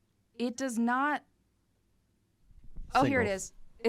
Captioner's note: none